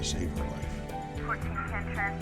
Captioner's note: dispatch radio